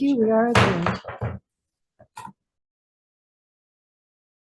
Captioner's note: gavel bangs